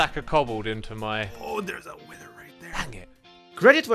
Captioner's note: whispering